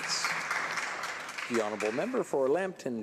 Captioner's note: some Applause